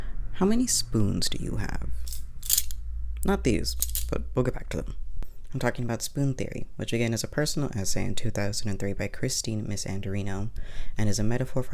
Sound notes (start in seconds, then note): 2.0 spoons rattle